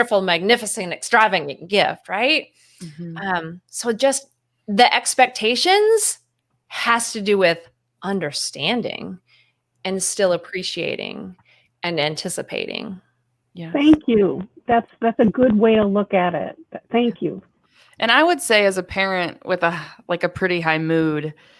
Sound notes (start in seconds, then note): none